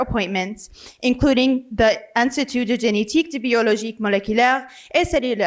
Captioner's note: foreign language